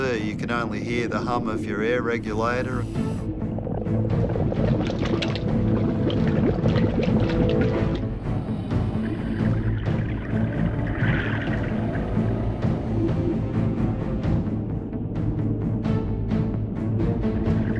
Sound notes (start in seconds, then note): 3.0 bubbling; 9.5 swishing